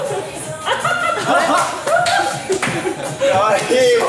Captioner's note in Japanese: 笑い